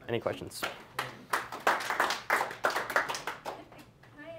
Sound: applause

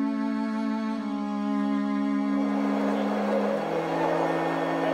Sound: crowd noise

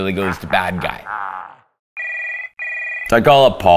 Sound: phone rings

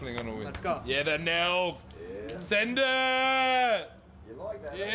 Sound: yelling

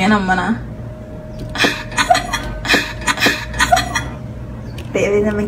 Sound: laughter

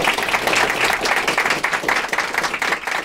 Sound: applause

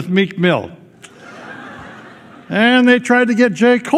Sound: laughter

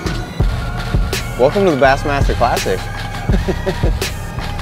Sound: laughs

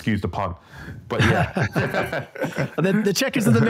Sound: both laugh

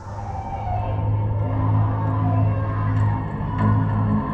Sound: Morgan screaming

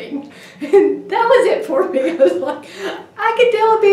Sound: laughing

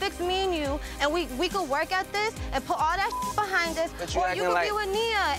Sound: beep

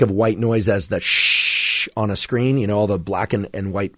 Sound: shushing

